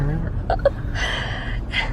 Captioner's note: laughs